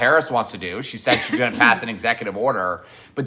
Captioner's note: clears throat